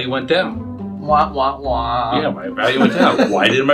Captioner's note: laughs